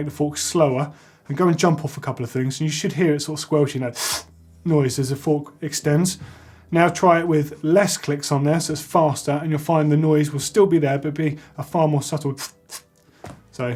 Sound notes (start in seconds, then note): 3.9 sucking in; 12.4 sucking in quickly